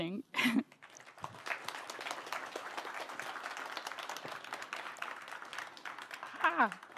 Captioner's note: applause